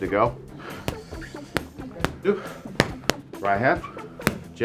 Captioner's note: punches thudding